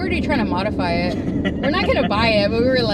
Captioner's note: laughs